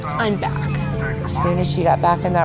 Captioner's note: people chattering